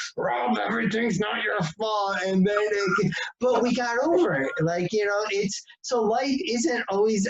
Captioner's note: laughs